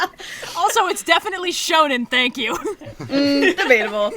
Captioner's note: laughs